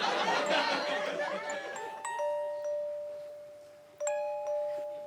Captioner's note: audience laughing